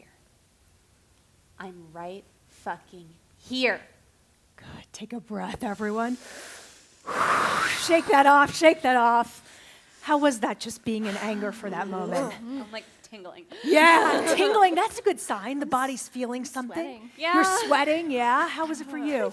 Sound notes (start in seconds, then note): 6.0 exhales; 13.6 laughter